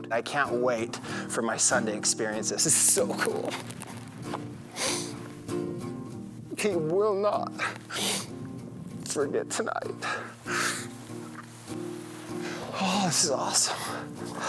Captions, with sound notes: I can't wait for my son to experience this. This is so cool! (crying) Kyden will not forget tonight. Ah, it's awesome.